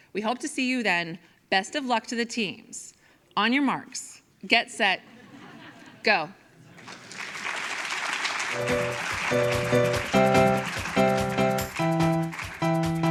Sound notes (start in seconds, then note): 6.7 audience applauds; 8.5 upbeat music